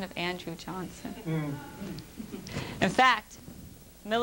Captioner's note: laughter